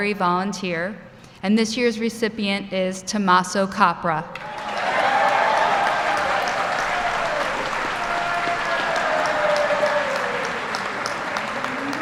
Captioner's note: applause